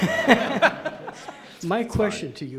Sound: laughing

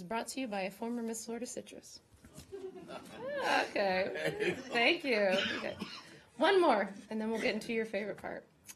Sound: laughter

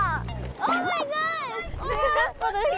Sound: sounds of pain coming from places

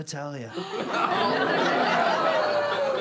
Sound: gasps

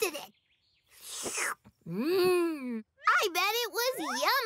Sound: slurps

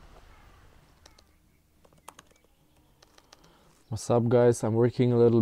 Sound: keyboard tapping

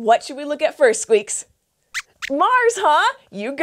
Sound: squeaks squeaks

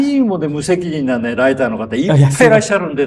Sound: laughs

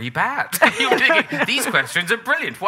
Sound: laughing

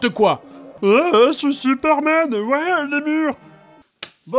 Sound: silly voice

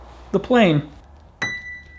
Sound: ding

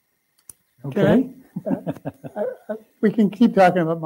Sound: laughing

